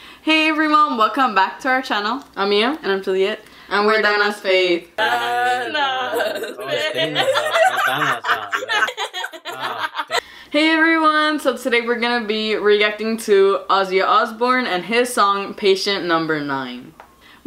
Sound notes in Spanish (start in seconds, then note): 6.1 La risa